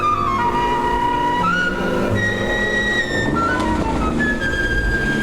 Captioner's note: car engine revving